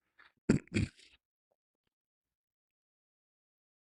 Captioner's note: clears throat